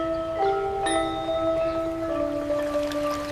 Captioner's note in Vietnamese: chuông